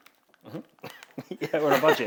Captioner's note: chuckles; host laughs